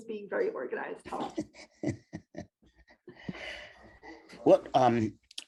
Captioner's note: laughing